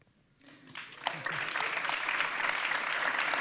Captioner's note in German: Applaus